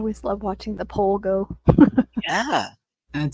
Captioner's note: chuckling